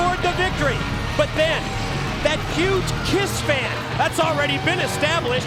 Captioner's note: bell ringing